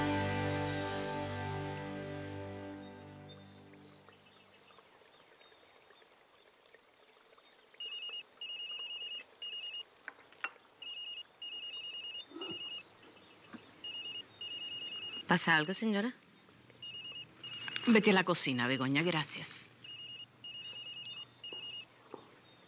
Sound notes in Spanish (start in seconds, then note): 9.5 Suena el celular; 16.6 Sigue sonando el celular